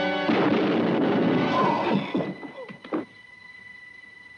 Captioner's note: explosiones de escopeta